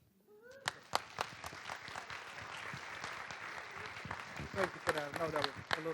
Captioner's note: audience applauding